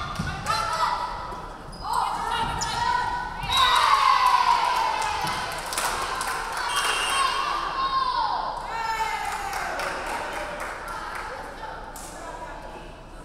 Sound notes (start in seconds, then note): 3.4 crowd cheering; 4.0 referee whistling